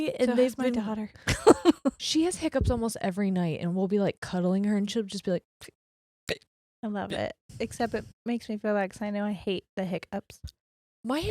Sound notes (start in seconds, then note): 1.3 laughs quickly; 5.8 hiccuping quietly